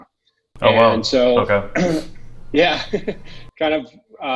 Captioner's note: laughs